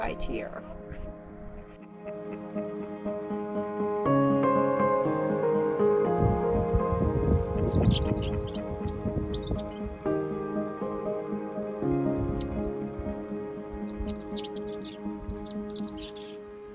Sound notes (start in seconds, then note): 8.5 bird chirping